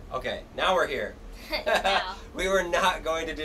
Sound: laughs

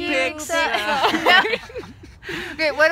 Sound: laughing

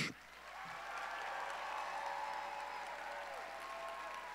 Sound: audience cheering

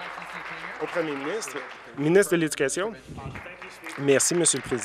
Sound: applause

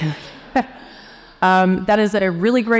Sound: all chuckling

